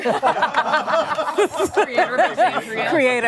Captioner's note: laughter